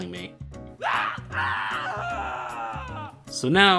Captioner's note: more painful screams